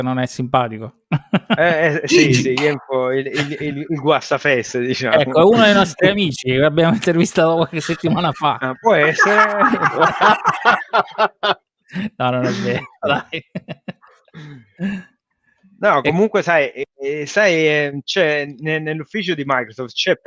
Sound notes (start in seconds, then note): 9.4 laughs